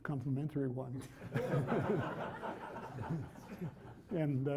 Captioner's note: laughter